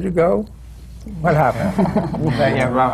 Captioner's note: laughter